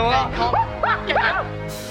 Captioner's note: shrieking